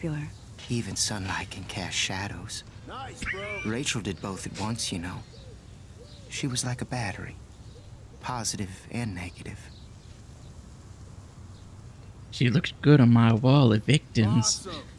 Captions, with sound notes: [laughs] She looks good on my wall of victims.